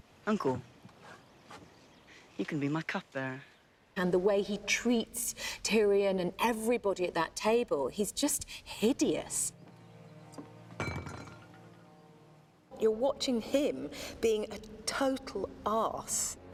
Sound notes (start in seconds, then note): none